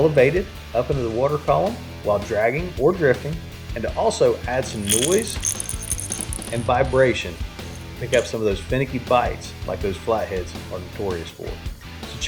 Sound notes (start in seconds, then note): 4.7 bait rattles